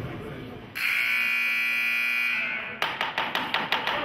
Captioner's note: buzzer honks; tapping loudly